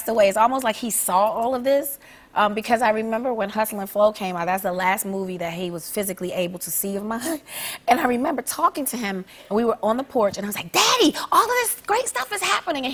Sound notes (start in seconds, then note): none